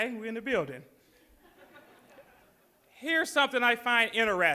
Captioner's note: audience laughs